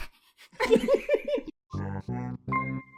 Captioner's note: laughs